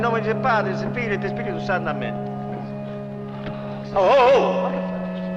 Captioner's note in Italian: in latino